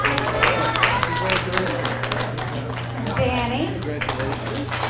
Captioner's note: audience applauds